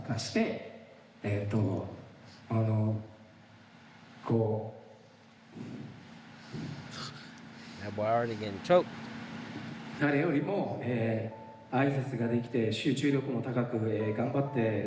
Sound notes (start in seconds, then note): 2.8 speaking in foreign language